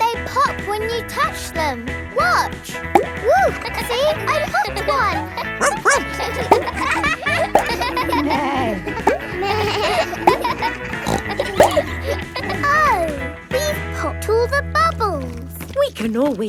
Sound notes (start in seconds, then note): 3.9 kids laughing; 5.6 barks; 8.6 bleats; 8.6 neighs; 11.5 snorts